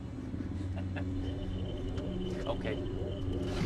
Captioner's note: chuckling